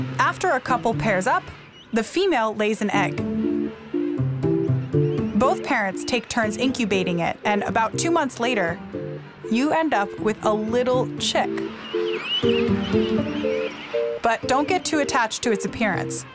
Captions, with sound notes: After a couple pairs up, the female lays an egg. Both parents take turn incubating it and about two months later, you end up with a little chick. (penguin chirping) But don't get too attached to its appearance